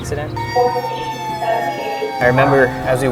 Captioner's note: sirens